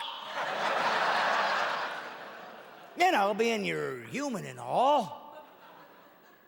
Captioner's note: audience laughing